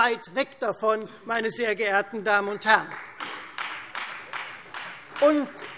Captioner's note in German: Beifall Freie Demokraten